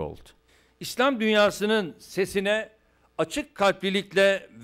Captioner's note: non-english speech